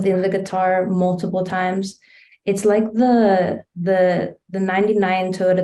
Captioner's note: none